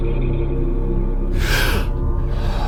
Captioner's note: gasp